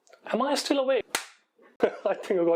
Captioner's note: smack